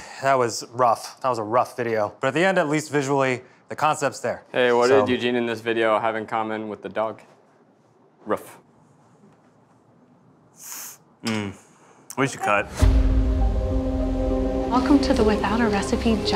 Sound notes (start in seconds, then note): 10.6 exhaling